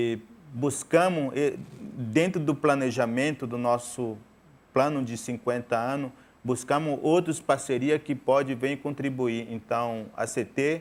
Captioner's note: speaking in portuguese